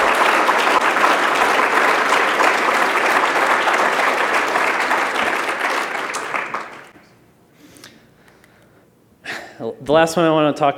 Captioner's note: cheers and applause